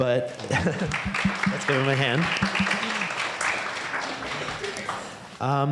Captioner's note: audience applauding